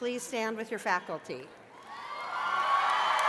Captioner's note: cheers and applause